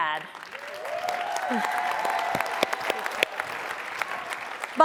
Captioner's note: applause and cheering